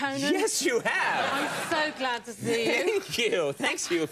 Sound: laughs

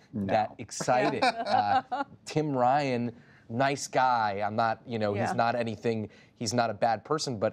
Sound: laughter

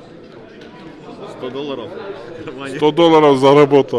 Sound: in Russian

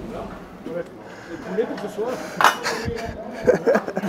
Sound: laughter

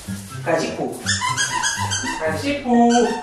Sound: sound of Puding's toy

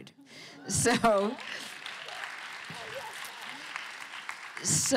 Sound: applause

